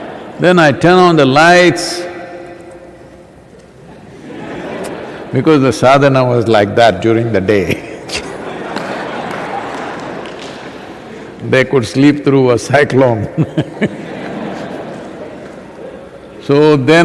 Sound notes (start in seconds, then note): 7.6 laughter